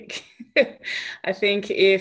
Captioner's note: laughs